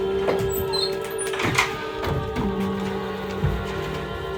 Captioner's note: suspenseful music continues; door screeching